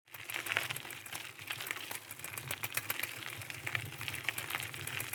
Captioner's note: bike wheel clicking